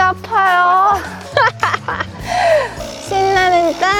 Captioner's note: laughter